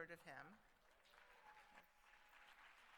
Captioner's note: applause